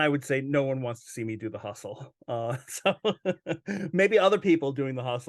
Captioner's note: laughs